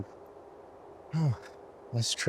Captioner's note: Ayman sighs